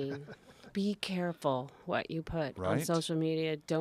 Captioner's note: laugh